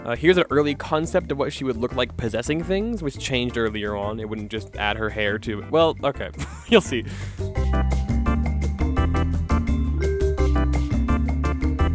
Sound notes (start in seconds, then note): 7.0 wheezes